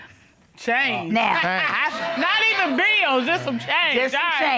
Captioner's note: laughs